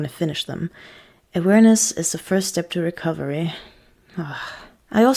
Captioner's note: sigh